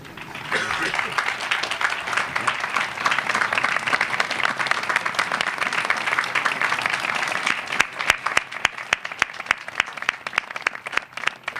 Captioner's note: applause